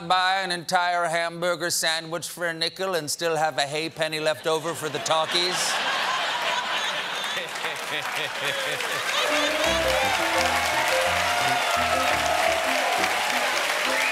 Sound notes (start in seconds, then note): 6.3 applause; 6.5 laughter